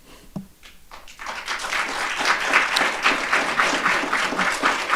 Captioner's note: audience applauding